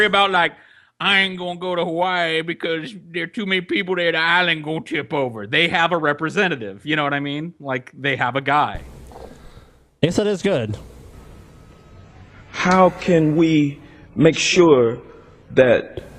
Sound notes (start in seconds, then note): 0.8 scared redneck voice; 5.5 normal voice